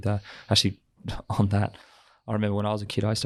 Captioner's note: laughs